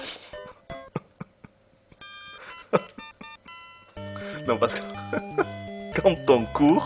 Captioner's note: laughs